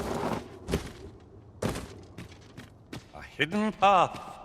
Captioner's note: footsteps